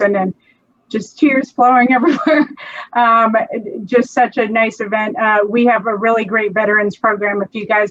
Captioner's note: laughs